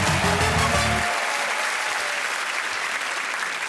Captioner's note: cheering and applause